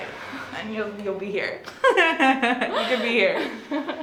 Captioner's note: laughs